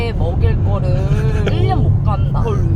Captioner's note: soft chuckle